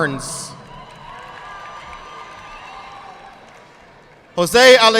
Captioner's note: audience clapping